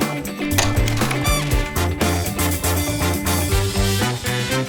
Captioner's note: slide clicks